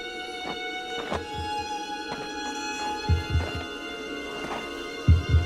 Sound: heartbeat thudding

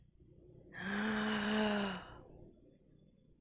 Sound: shocked gasp

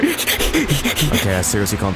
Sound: obnoxiousbreathing

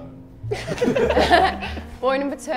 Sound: Sidemen laugh

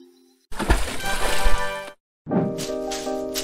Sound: splash

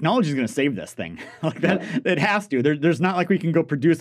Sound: laughs

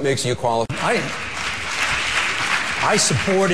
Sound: applause

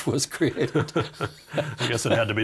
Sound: both laughing

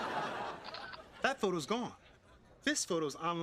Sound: camera snaps

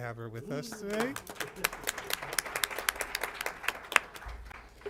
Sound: applause

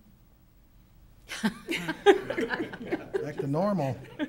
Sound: laughs

